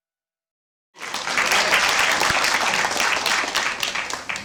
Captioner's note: applause